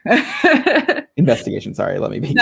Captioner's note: laughing